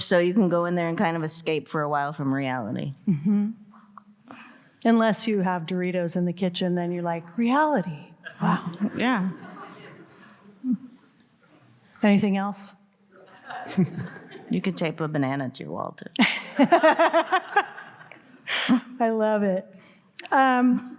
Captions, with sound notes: So you can go in there and kind of escape for a while from reality. - Unless you have Doritos in the kitchen, then you're like, reality, wow. - Yeah. (audience laughing) - Anything else? (audience laughing) - You can tape a banana to your wall too. (all laughing) - I love it.